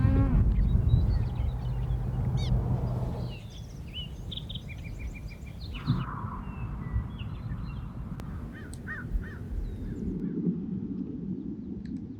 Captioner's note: birds